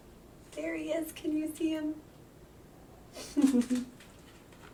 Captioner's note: chuckling